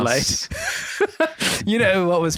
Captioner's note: chuckles